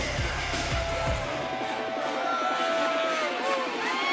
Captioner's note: crowd cheering